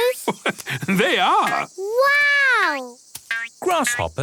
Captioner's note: laugh